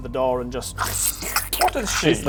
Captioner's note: squish